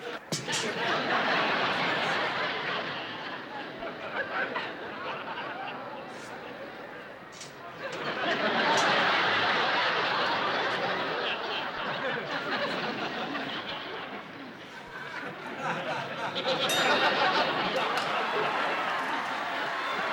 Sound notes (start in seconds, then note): 0.1 laughter; 7.9 laughter; 16.6 bell rings